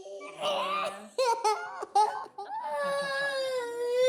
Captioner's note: child sobs